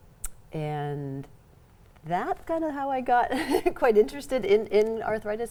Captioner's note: laughs